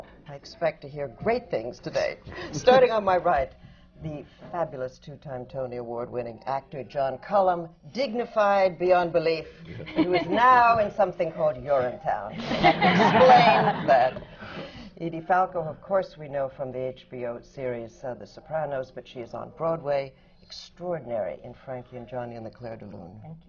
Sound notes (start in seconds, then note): 9.3 laughter from the panel; 12.3 laughter